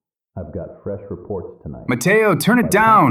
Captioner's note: SFX: podcast playing